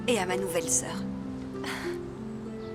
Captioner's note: chuckling